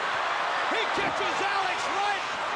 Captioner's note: crowd cheering